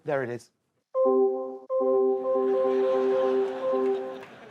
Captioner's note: bells dinging; audience laughing